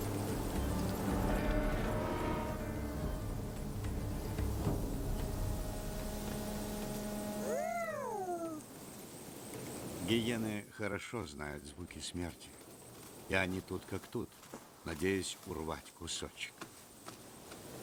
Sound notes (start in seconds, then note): 7.3 hyena howling